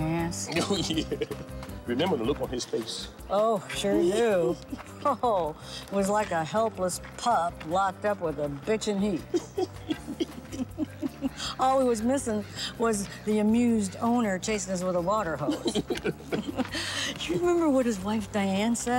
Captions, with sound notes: [laughs] Oh, yeah! Remember the look on his face? Oh, sure do! Ho ho! He was like a helpless pup locked up with a bitch in heat. [both laughing] All he was missing was the amused owner chasing his little water hose. You remember what his wife Diane said